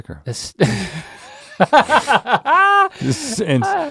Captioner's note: both laughing